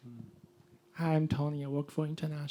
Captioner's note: voiceover